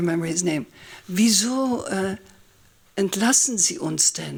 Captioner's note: german speech